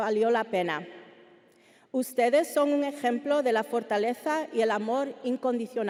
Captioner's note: speaking Spanish continues